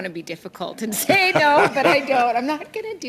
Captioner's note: laughter